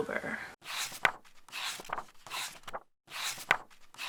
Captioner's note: pages turning